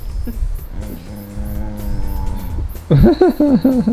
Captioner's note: dog grumbles